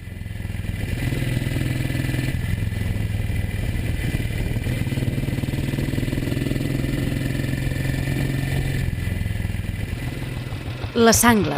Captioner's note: motorcycle engine